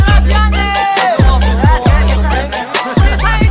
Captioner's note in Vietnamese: Nói chuyện ồn ào